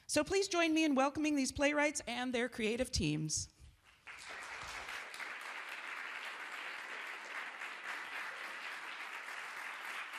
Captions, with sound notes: So please join me in welcoming these playwrights and their creative teams. [audience applauds]